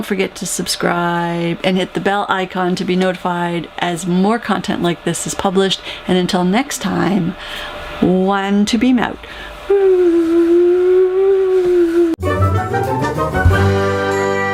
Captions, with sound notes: to subscribe and hit the bell icon to be notified as more content like this is published. And until next time, one to beam out. [whooo] [end music]